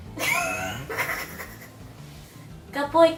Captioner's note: random laughter